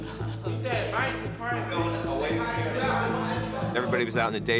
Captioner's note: overlapping chatter